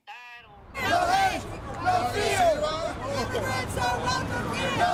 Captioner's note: protesters chanting